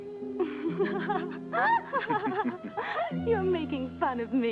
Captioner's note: Pilar laughs